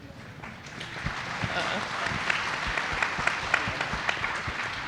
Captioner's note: audience laughing; audience applauding